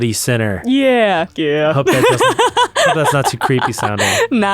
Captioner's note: laughs